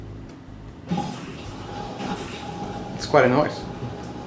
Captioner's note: washer running